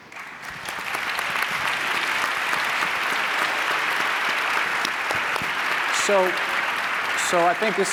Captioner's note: applause